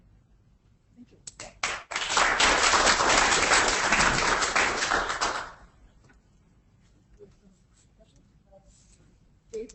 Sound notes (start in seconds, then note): 1.6 audience applauding